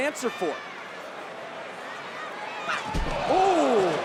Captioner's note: crowd chattering; crowd oohing; Blair yelling